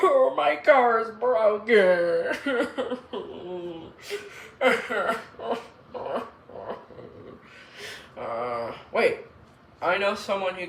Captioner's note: cries